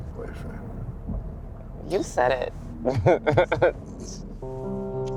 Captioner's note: laughs